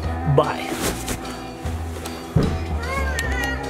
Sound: coat rustling

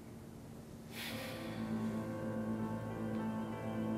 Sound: sighs; dramatic music

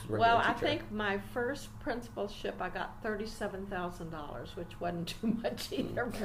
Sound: laughing

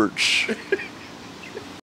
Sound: cameraman laughing

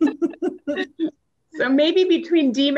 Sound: laughs

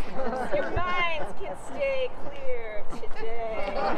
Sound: laughter

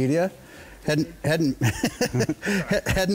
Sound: chuckles

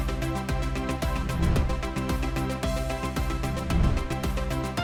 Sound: animation swooshing

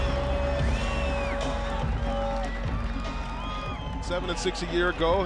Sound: crowd cheers

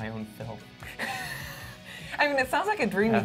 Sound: laughs

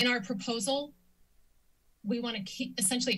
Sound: silence

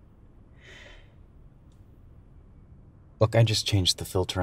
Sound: sighs

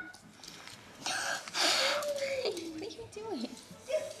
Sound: child blowing

